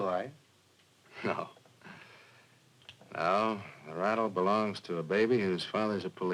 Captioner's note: chuckles